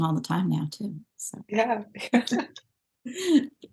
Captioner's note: chuckles